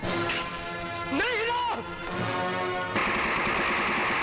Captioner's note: Rapid gunfire